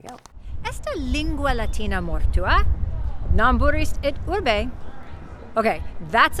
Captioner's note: speaking Latin